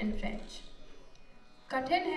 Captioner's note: non-english speech